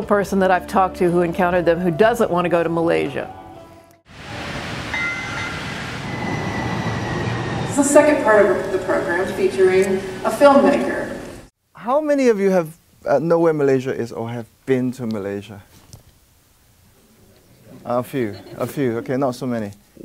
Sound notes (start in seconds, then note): 4.8 train horn blares; 6.2 engine roars